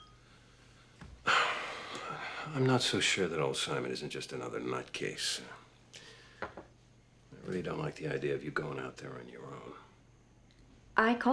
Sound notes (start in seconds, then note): 1.2 sighs